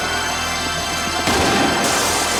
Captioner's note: gun fires; glass shatters